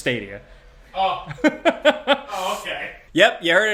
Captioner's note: laughs